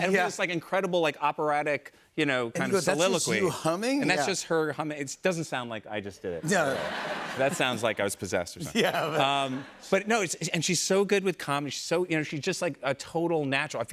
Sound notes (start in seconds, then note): 6.4 laughter